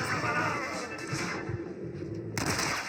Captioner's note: sounds of cold blood and shoots